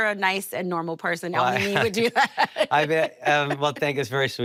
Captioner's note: laughs